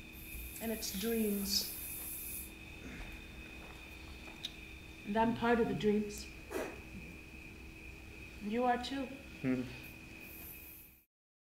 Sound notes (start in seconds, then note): 9.4 hums